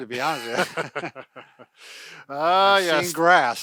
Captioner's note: laughing